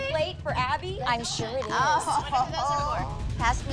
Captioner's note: laughter